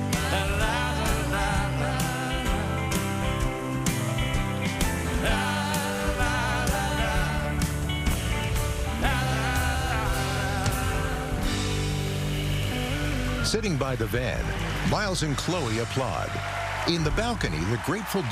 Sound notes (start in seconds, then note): 13.4 cheering and applause; 16.4 song ends